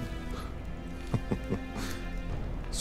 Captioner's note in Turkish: Gülme sesi